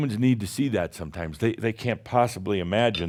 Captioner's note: none